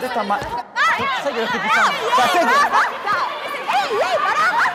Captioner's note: yelling